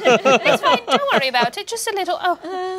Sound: all laughing

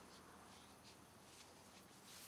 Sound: none

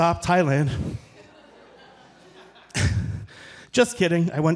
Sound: audience chuckling

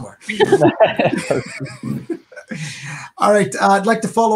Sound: laughing

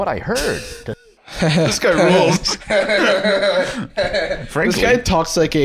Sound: laughing

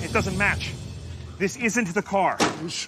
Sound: car door closes

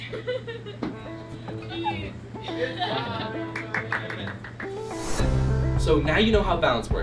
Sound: giggling

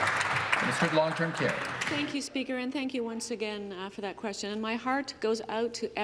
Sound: some Applause

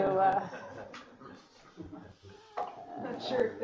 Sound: laughing

